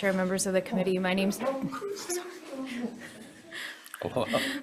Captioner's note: members chatting